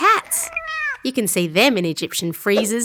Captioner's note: cat meowing